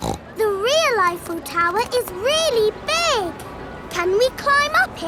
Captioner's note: snorts